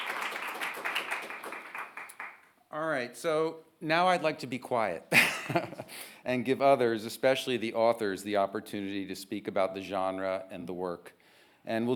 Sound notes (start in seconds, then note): 5.1 chuckles